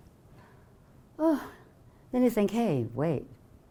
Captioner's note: gasping